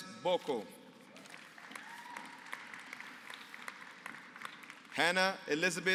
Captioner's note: applause